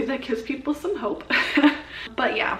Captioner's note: laughs